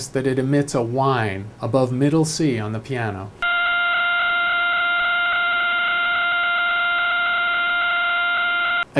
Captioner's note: pulsar sound